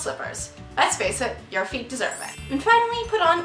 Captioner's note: success trill